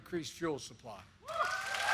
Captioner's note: applause